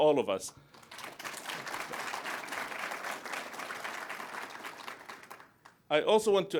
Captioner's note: applause